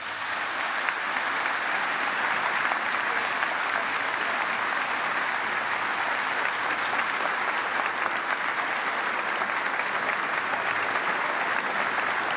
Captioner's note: applause